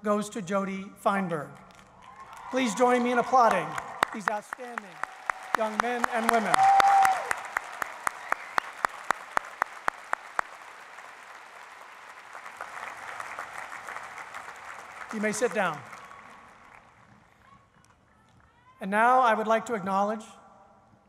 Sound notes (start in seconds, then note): 4.2 applause